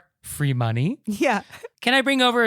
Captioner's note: giggling